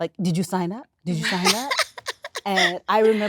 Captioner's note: my laughing